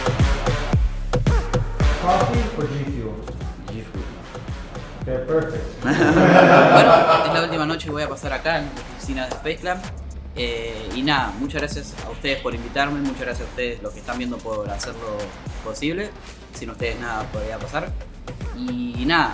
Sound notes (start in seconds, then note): 5.8 laughing; 7.4 speaking Spanish